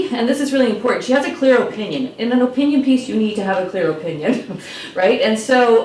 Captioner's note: laughs